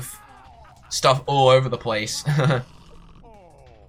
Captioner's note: short chuckle